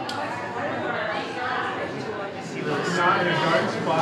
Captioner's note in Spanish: personas charlando